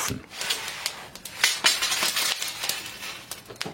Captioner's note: crackling, metallic rattling